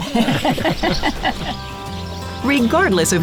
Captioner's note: laughing